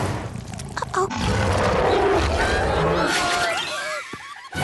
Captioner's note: roars